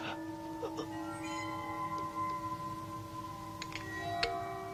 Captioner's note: man gasping